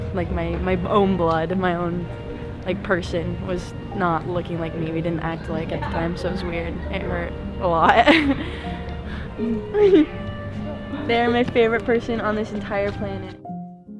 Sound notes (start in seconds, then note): 8.0 interviewee chuckles; 8.6 laughs; 13.7 piano music